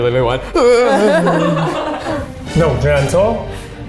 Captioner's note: laughing in background